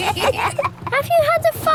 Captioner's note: kids giggling